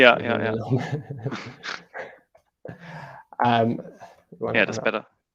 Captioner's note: laughs